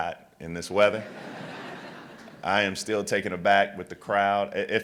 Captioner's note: laughter